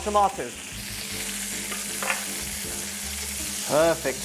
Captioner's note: sizzling sound